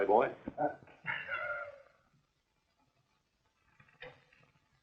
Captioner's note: laughing